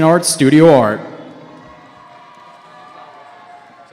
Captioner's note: cheering